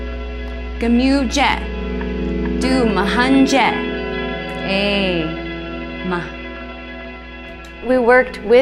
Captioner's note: speaking Havasupai